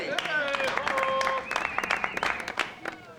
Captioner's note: cheering and applause